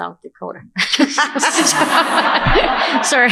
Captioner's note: laughter